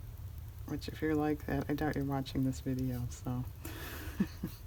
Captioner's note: laughs